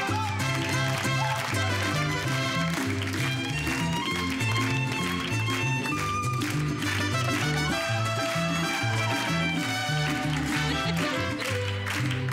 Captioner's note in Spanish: Palmadas al compás